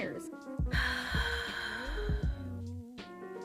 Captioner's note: heavy emotional breathing